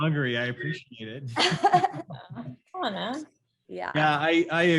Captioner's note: laughs quickly